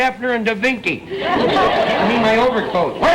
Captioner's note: audience laughter